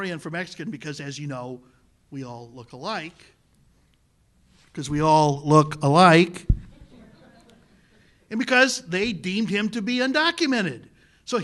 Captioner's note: repeats loudly